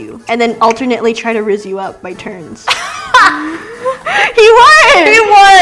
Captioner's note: laughs